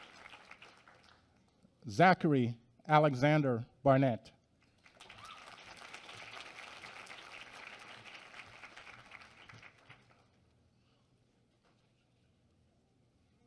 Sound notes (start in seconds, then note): 4.7 applause